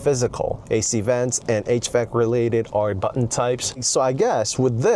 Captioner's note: hvac